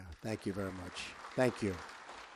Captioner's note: applause